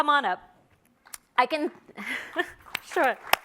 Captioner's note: audience applauds